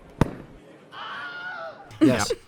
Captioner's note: Wilhelm scream